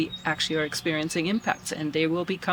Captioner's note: birds chirping